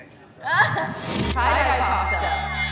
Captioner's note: laughs